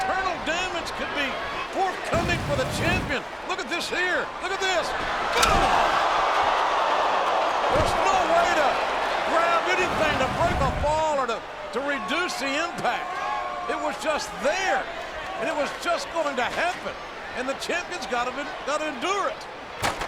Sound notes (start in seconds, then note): 5.6 body thuds; 6.4 audience groans